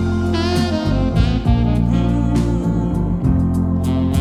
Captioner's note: soft humming; soft music